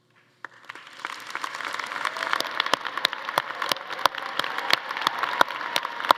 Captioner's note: attendees applauding and cheering